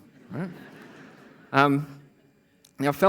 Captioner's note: laughter